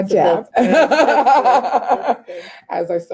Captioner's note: laughing